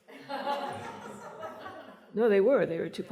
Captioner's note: laughter